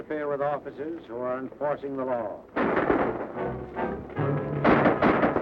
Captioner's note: gunfire